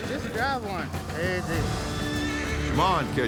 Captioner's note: horse neighs